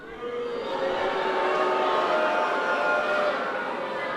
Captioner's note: audience boos